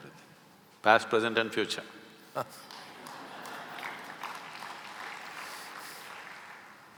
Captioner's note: Karan Johar laughs; applause